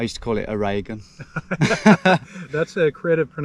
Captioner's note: both laugh